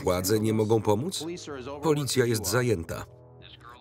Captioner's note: voiceover